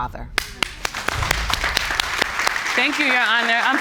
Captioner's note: applauding